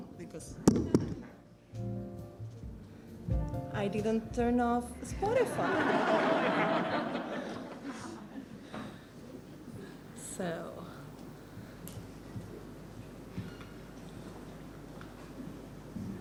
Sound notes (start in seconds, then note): 5.3 laughs